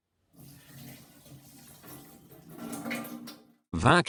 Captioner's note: water is poured down the sink